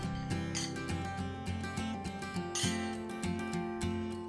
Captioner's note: horseshoe clanking